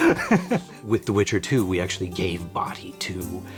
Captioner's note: in English